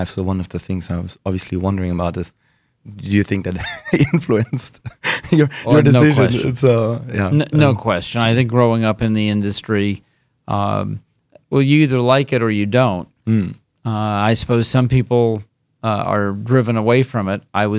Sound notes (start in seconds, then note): 3.6 laughing